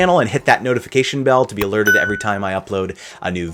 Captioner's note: bell rings